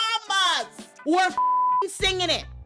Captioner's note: beep